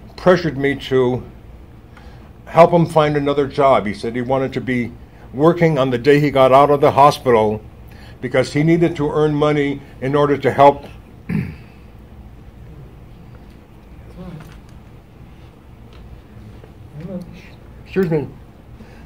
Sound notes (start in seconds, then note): 13.1 chokes back tears